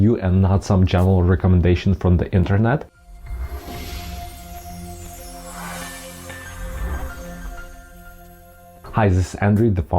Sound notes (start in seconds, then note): 2.9 logo whooshing; 3.5 gentle music